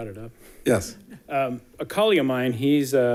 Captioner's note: people chuckling